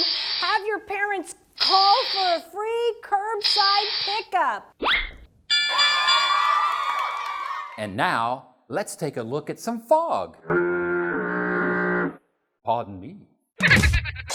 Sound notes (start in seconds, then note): 4.8 whistle; 5.5 ding! ding! ding!; 5.6 cheering; 13.5 silly laugh